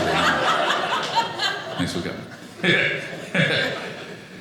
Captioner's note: audience laughing